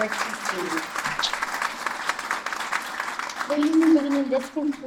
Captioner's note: applause